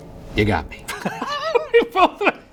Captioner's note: laughing